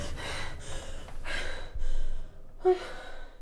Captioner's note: gasping; heavy breathing